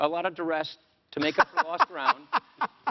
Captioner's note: Biden laughs